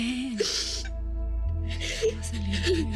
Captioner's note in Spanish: Sollozos